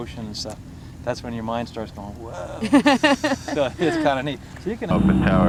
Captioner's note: laughter